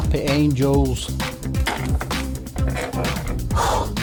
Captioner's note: creaking chair; heavy breathing